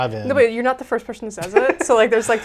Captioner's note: laughs